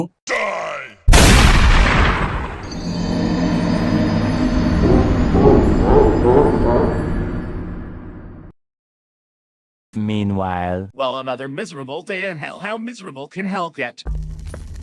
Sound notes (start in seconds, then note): 1.1 gun Shoot